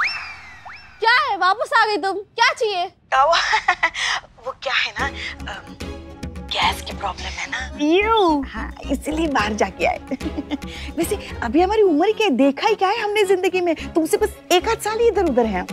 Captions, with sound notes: What is it? You're back? What do you want? [laughs] The thing is that I have a gas issue. - Eww. That is why I had to go outside. I am so young, I've barely experienced life. I'm just a few years apart from you.